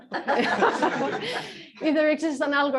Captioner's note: laughter